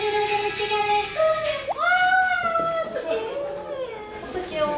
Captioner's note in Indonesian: Teriakan keluar dari studio